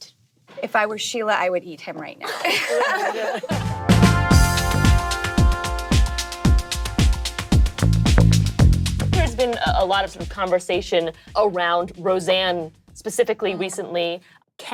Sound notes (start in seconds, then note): 2.2 laughing; 3.2 upbeat music